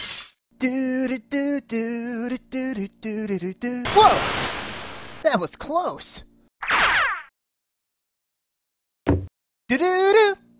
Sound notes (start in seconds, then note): 9.1 thud